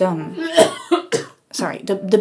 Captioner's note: person coughs